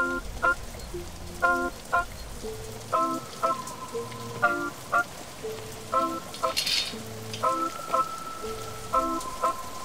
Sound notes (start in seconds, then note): 3.4 rain patters; 3.4 sinister organ music